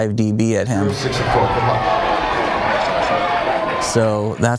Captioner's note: audience cheers